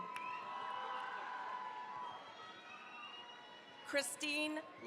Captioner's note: cheering, applause